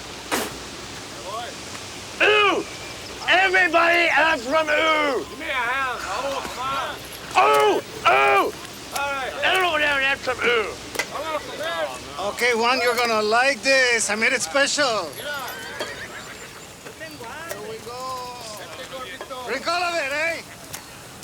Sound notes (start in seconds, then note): 0.2 Ignacio spits; 16.9 gang members chatter